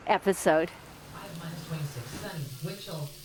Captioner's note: radio in background